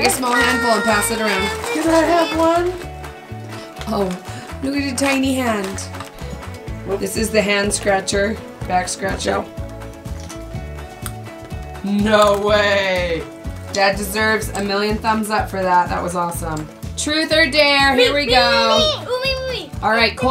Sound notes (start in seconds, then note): 9.6 crunching; 18.7 children clamoring